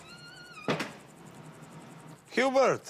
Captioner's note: door slams